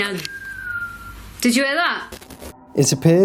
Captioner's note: whistles